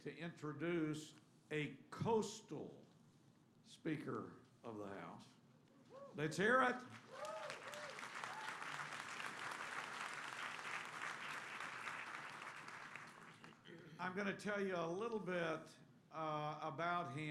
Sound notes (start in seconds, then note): 10.1 applause